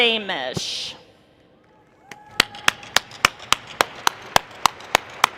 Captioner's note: applause